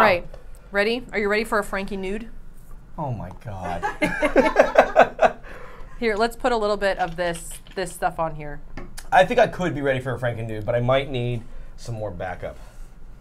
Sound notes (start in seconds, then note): 3.6 all laughing